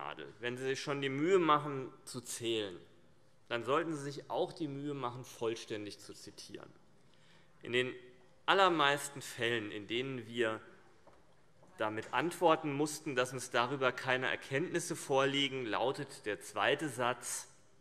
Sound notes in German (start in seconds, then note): none